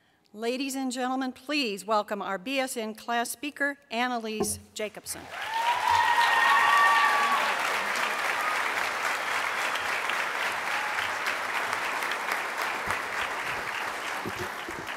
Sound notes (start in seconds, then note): 5.2 applause